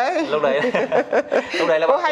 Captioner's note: laughs